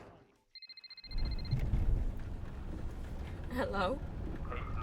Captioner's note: phone rings